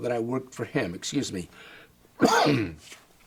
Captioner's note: coughs